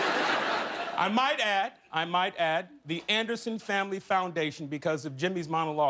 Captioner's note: laughter